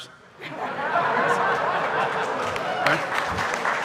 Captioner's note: audience laughing; audience applauding